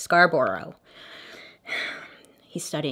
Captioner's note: Bailey sighs